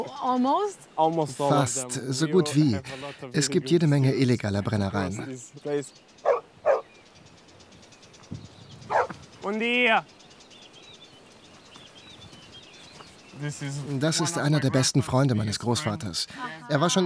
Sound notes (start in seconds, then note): 7.2 bark